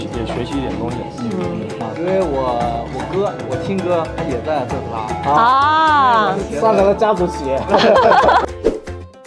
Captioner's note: haha